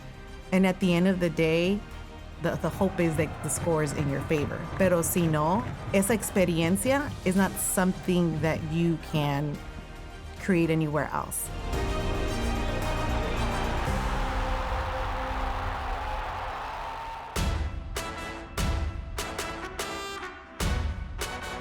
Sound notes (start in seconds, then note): 4.6 speaking in foreign language; 11.6 victorious music; 12.5 crowd shouting; 17.3 victorious music continues